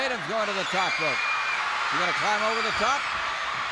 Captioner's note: crowd cheers